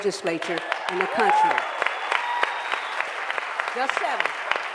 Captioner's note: applause